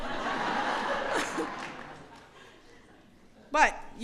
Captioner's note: laughter